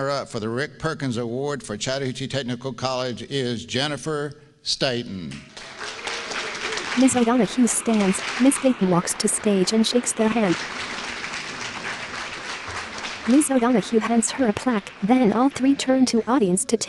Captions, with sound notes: up for the Rick Perkins Award for Chattahoochee Technical College is Jennifer Staton. [APPLAUSE]